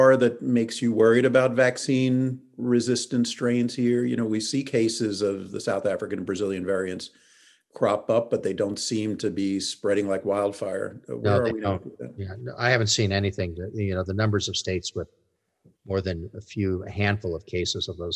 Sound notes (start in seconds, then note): 11.3 mumbles